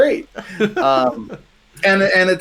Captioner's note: laughing